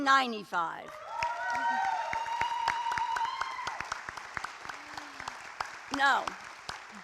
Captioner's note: applause